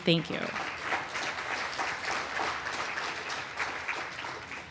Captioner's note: applause